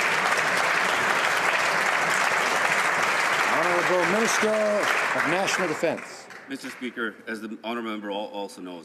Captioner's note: some Applause